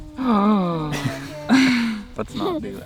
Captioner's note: laughs